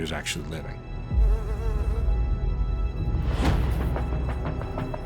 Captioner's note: fly buzzing